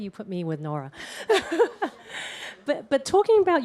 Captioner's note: laughter